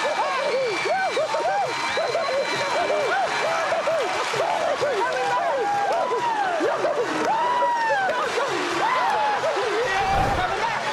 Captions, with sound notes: [ Shouting ] We'll be back! [ Whooping ]